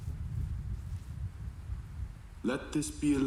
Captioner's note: thunder rolling